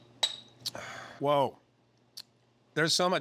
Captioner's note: clinking